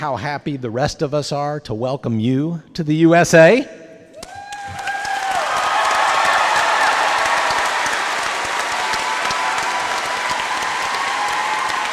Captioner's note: applause